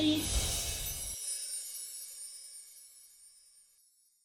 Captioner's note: chiming